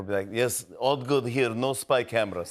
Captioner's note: Russian accent